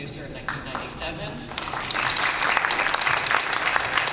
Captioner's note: applause